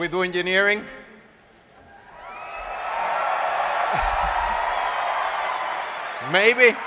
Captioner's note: applause